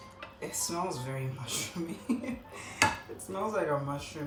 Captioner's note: distressed laughter